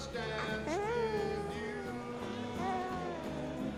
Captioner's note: baby cooing